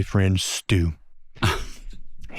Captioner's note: scoffs